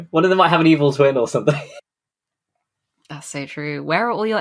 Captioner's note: laughs